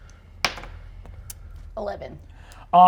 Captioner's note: die rolls